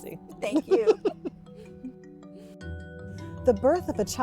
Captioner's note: laughing